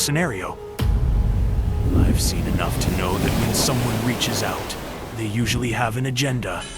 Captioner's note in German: Donner und Wellen